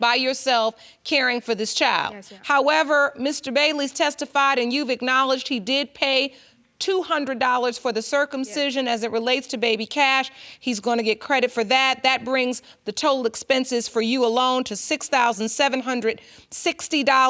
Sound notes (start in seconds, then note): none